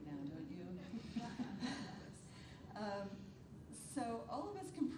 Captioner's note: attendees chuckles